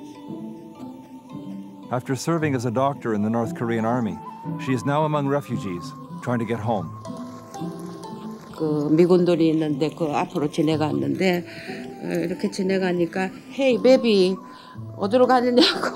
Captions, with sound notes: After serving as a doctor in the North Korean Army, she is now among refugees, trying to get home. (speaking foreign language)